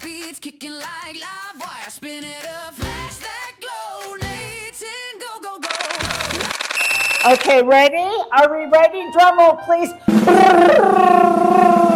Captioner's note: laughs